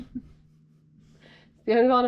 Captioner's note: laughs